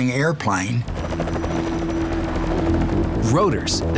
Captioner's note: jet engine roaring